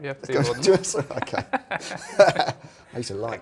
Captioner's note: laughs